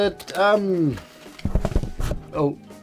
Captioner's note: camera donk